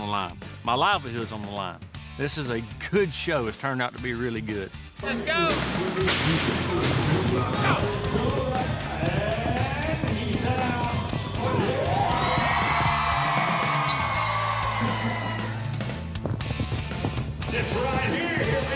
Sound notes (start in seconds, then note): 5.9 fast hoofbeats; 11.4 crowd cheers, claps; 16.2 fast hoofbeats